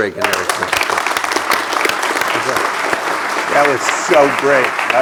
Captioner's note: applause